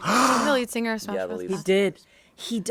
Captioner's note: Bob gasps